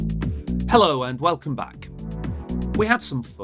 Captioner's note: upbeat electronic music; voiceover